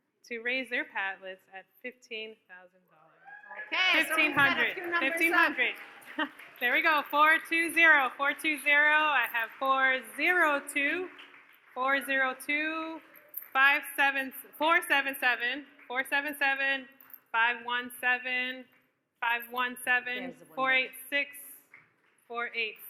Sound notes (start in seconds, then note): 3.2 audience cheers